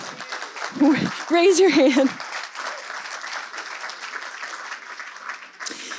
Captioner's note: audience applauds; laughs; audience applauds